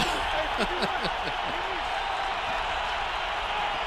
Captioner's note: laughs